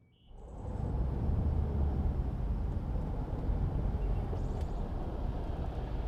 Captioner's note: vehicle engine whirring